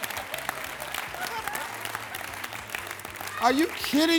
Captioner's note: audience laughing